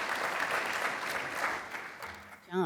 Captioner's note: applause